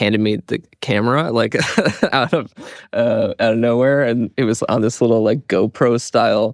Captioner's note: laughs